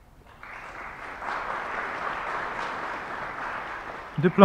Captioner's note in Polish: oklaski